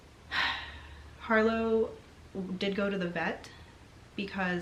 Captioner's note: sighs